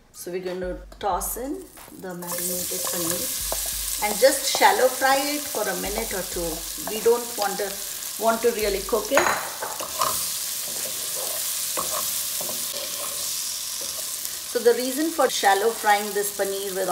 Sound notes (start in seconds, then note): 9.9 paneer sizzling